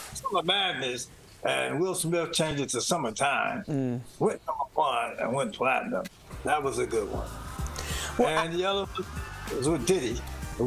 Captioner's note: laughter